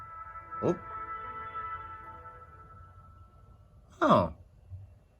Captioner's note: Windows Vista Media Center sound starts playing; Windows Vista Media Center sound